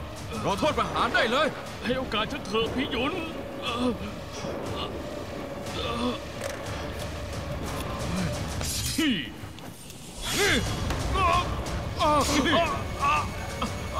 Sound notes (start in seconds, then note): 4.6 moaning; 6.5 intense music playing; 10.1 thunderclap sound